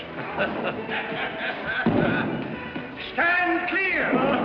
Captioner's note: laughs